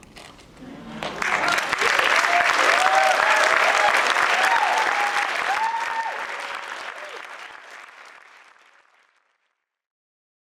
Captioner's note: applause